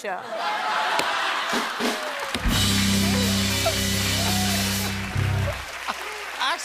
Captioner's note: laughter and applause